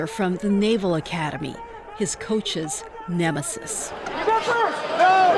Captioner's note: shouting